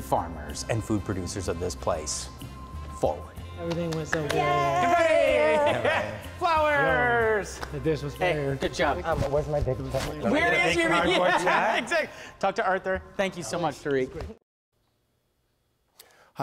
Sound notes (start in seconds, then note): 3.6 applause; 10.7 laughing